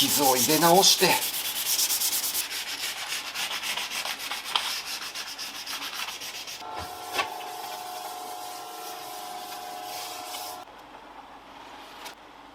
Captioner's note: working sound